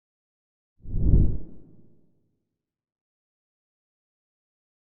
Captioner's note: logo whooshing